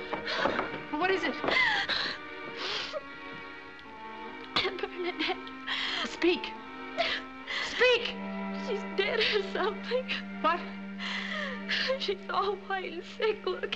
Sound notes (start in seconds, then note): 1.5 gasps; 2.5 sniffles